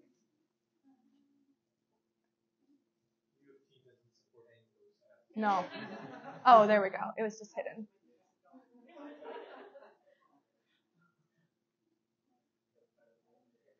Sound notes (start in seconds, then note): 5.5 audience laughing; 9.0 audience laughing